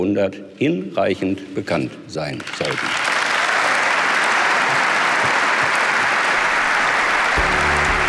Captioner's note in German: Applaus